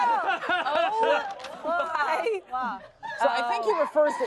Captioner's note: everyone laughs